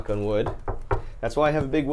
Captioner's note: knocking on table